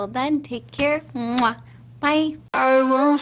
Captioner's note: kisses